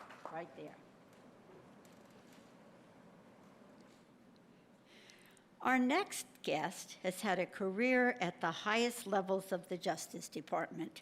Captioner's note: applause